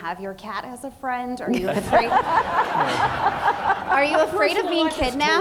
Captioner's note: audience laughing